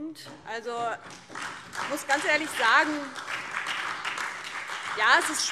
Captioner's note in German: Beifall DIE LINKE, SPD und Freie Demokraten